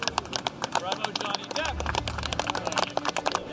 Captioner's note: all applauding